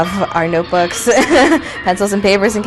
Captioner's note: laughs